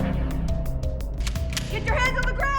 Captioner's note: cocking gun